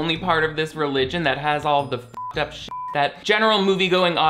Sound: beep

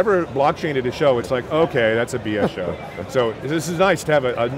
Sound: chuckles

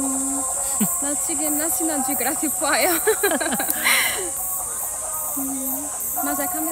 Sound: laughs

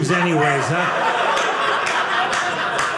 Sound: audience laughing

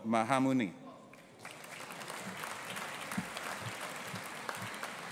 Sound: audience applauding

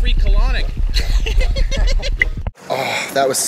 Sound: laughs

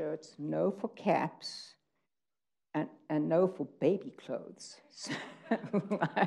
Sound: laughs

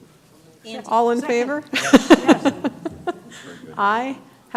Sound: laughter

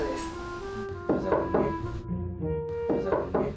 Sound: knock knock

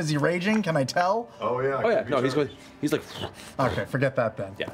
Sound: huffing

